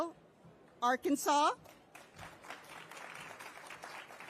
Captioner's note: applause